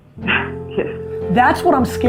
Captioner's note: chuckles